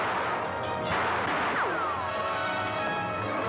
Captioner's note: bullet ricochets; gunfire; dramatic music